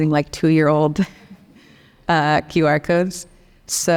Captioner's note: laughs